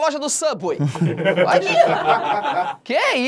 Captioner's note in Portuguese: risadas